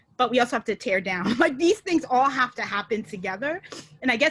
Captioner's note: chuckles